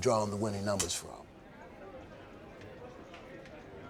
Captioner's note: hubbub